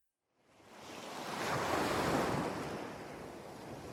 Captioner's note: waves lapping